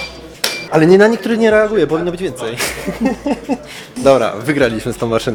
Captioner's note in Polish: śmiech